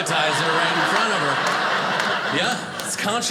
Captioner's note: audience laughing